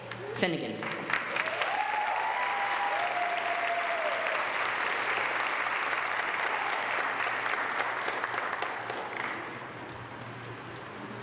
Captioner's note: applause